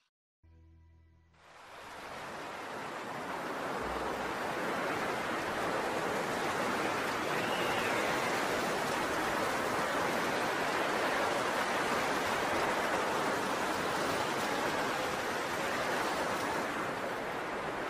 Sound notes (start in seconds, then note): 2.0 wind howling; 14.2 wind howling continues